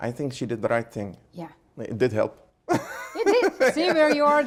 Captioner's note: laughing